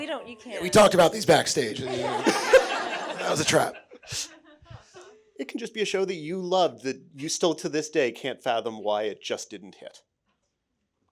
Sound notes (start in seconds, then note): 0.6 audience laughing